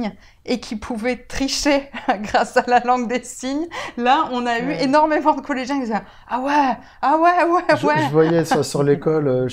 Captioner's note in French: rire